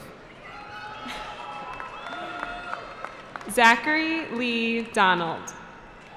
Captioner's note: cheering